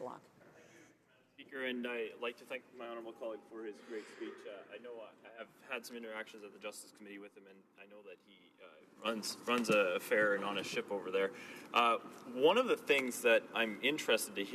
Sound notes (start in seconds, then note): 3.7 speaking French